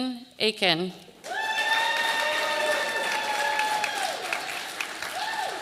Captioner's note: audience applauding